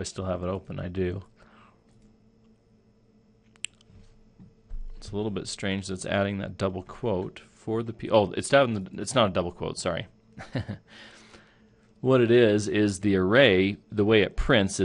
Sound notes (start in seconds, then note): 10.4 chuckle